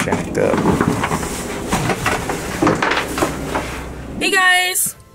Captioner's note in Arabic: قعقعة المعدات الرياضية